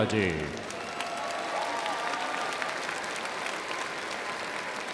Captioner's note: crowd applauds